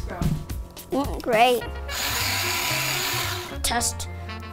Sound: pencil sharpener buzzes

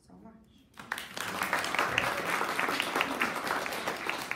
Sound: audience applauding

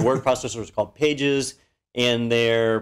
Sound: laugh

